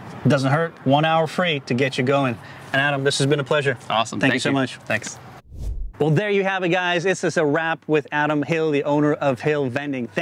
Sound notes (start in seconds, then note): 5.4 air swooshing